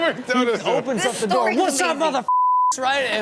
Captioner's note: beep